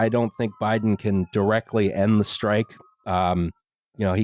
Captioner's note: faint sirens